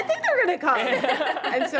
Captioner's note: laughter